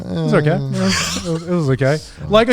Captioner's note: laughing